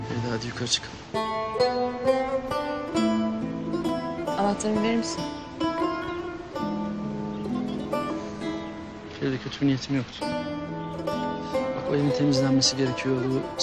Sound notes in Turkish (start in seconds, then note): none